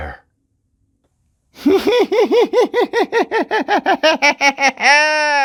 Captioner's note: evil laugh